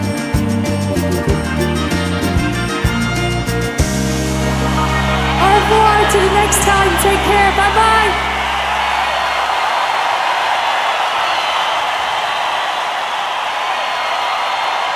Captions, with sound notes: [AUDIENCE CHEERING] - AU REVOIR UNTIL THE NEXT TIME, TAKE CARE, BYE BYE! [AUDIENCE CHEERING]